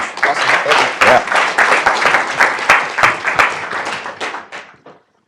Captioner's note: applause